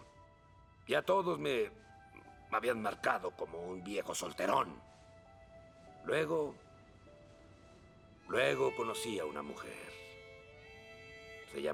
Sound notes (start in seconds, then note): none